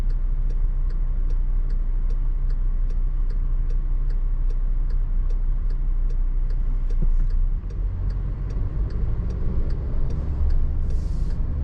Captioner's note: ticking